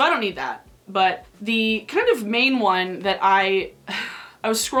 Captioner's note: sighing